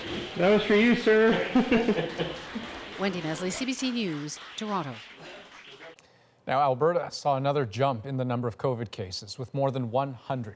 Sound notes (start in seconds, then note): 1.8 applause